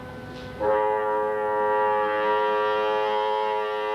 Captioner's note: horn blaring